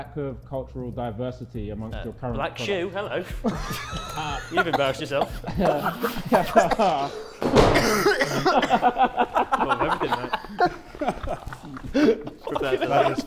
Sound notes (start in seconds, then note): 3.9 Sidemen laughing